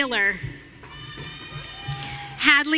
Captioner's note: audience cheering